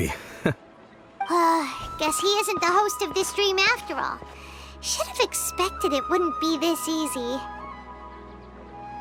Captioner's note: sigh